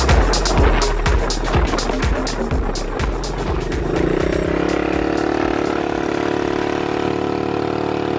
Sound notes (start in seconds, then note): 2.5 music fades; 4.6 motor roaring